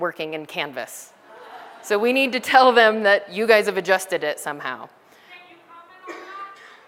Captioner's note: laughter